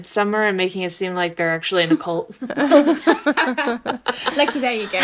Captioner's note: laughter